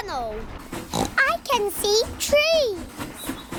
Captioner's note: oinks